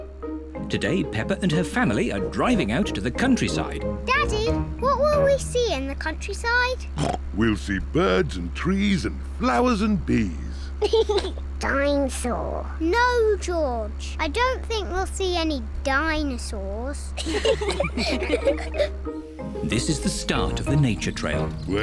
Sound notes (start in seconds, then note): 6.9 snorts; 10.8 laughs; 17.2 all giggle